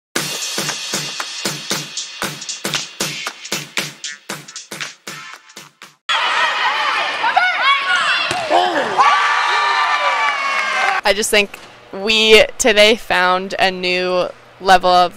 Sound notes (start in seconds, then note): 0.2 upbeat music; 6.1 cheering; 6.3 shouting